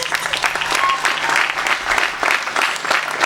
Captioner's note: applause; laughs